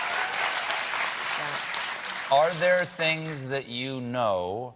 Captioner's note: applause